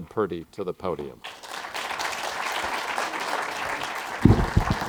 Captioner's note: applause